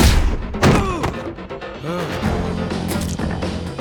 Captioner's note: Rex thuds